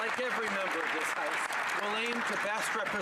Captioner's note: applause